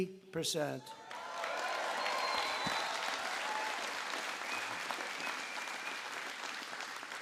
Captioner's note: applause